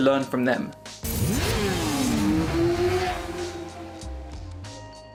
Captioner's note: motorcycle zooms